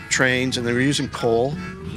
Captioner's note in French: klaxon de train; un camion passe